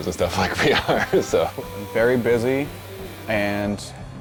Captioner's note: laughs